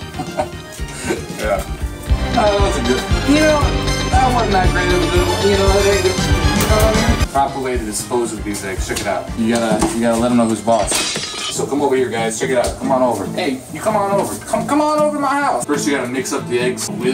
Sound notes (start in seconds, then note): 10.7 glass shattering